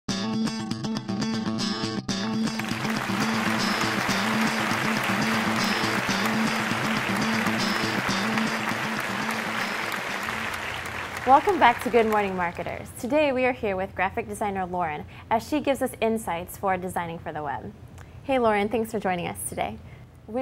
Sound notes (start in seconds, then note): 2.5 applause